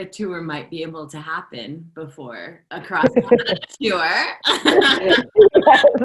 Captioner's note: laughter